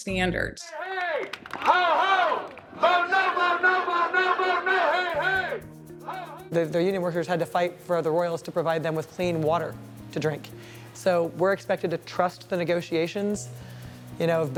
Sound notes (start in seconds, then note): 1.6 indistinct chanting